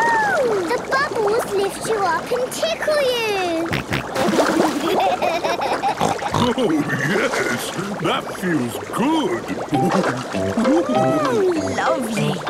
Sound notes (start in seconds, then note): 3.1 snorting, giggling